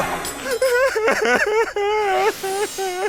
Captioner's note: sobbing